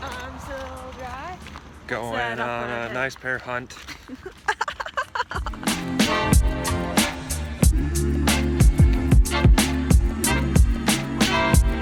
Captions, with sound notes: Going on a nice pair of hunt. [Laughing]